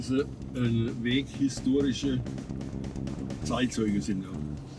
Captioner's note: speaking German